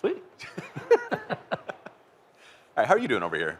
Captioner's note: laughter